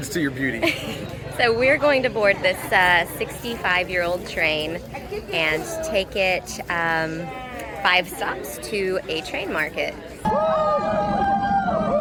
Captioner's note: laughs; crowd cheering as train arrives